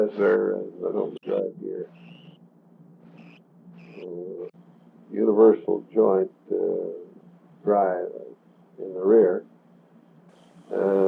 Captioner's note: buzzing noise